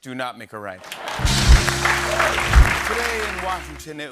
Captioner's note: cheers and applause